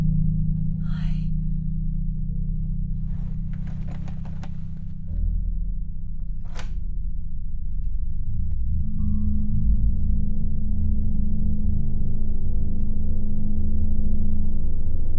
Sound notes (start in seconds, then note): 3.4 door rattling; 3.7 unsettling music continues; 6.4 latch clicking; 11.3 unsettling music continues